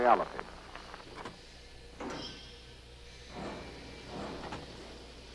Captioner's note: machinery whirring